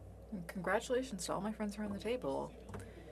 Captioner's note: speaking French